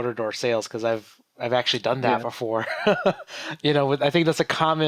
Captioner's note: laughs